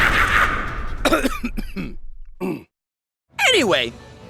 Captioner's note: Grimmjack laughing evilly; Grimmjack coughing